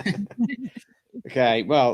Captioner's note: laughter